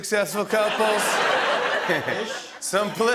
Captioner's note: laughter